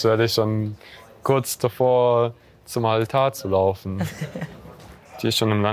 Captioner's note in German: Kichern